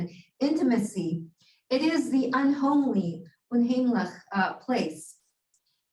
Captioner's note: Hebrew